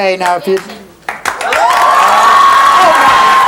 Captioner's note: audience cheering